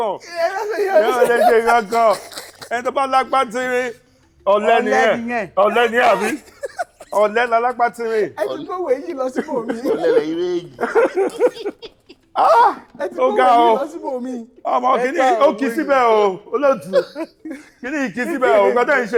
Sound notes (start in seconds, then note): 0.2 everyone laughs; 11.4 everyone laughs